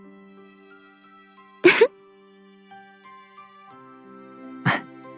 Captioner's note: laugh